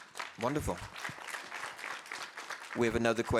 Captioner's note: audience applauding